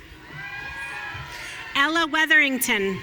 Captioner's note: audience cheering